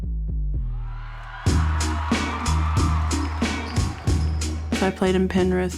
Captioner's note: people cheering; hip hop beats